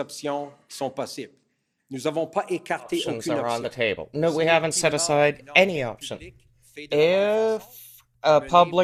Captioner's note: speaking french